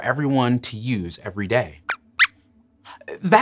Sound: squeaks squeaks

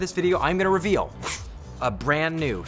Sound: woosh noise

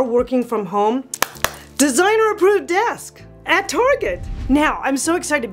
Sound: clapping

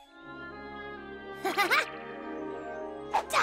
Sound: chuckles

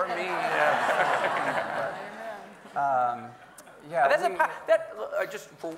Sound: audience laughing

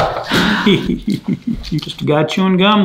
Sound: exhales loudly

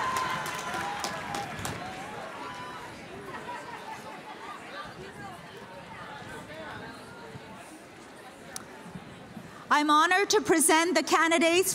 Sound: cheers and applause

